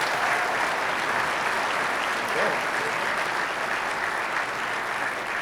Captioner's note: audience applauding